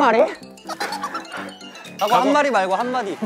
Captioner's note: laughing